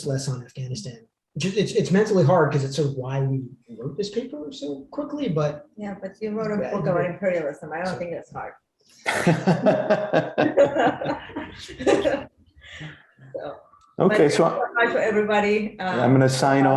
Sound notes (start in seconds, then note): 9.0 laughs